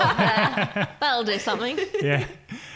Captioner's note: laughing